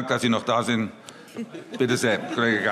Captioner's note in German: Heiterkeit